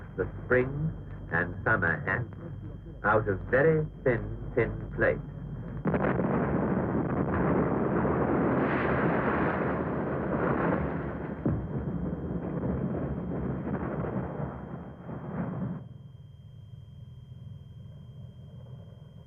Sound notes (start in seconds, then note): 6.8 explosions